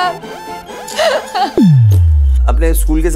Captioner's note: Gauravi laughs